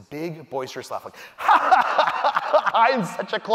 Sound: laughing loudly

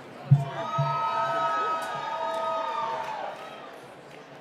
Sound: cheering

